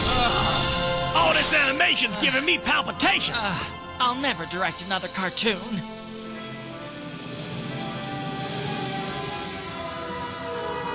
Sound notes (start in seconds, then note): 0.2 groans; 3.6 sighs